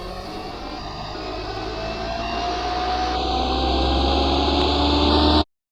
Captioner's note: engine revving